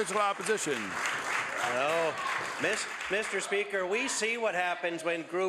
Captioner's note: applause